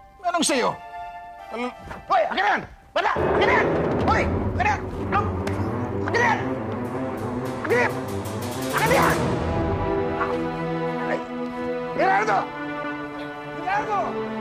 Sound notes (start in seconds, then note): 8.9 groaning